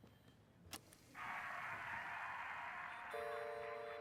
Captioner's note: crowd cheering over tape recorder